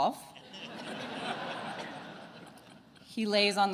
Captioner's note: attendees laughing